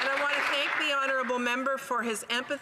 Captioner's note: speaking in French